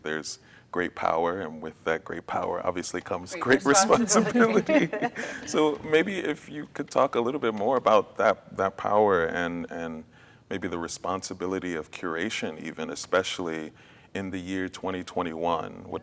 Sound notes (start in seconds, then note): 5.0 laugh